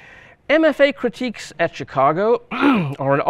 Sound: clears throat

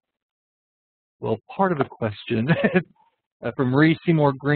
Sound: laughs

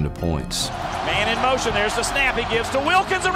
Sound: voiceover

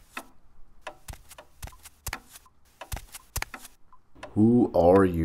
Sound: footsteps

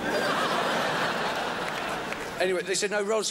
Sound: crowd laughs

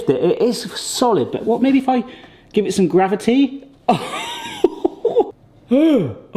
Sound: chuckles

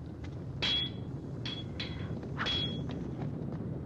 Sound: banging

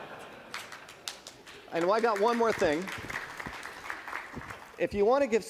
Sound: laughing

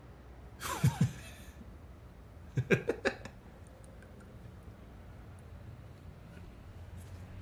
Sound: laughs

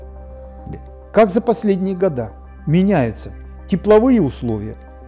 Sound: speaks Russian

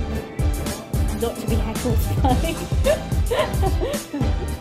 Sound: laughs

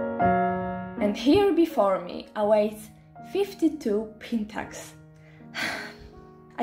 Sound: sigh

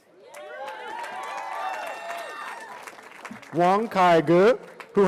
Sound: cheering

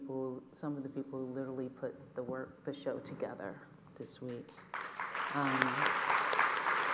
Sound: applause

